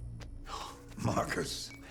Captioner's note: gasp